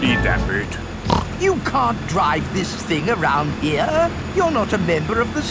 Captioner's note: snorts